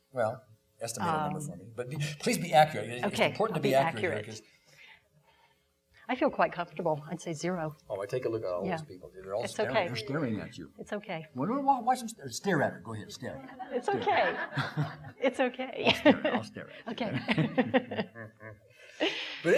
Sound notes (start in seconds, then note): 13.6 laughing; 13.7 audience laughing; 17.0 laughing